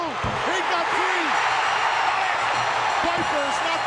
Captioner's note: bell ringing